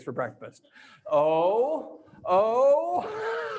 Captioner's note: laughs